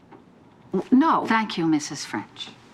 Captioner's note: stammers